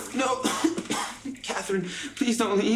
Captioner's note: coughs